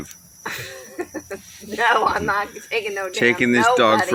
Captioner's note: laughing